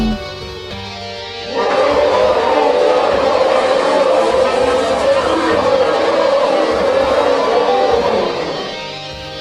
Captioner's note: Weither Warriors cheer